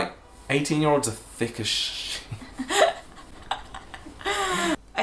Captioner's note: laughter